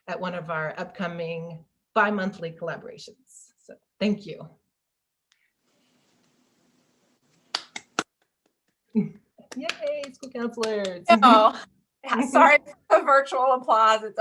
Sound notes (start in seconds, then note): 9.4 clapping